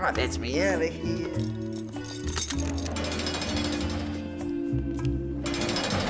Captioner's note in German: Tasten klingeln; Zellentür klirrt auf; Zellentür knallt zu